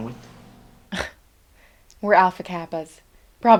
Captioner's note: scoffs